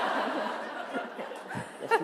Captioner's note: laughter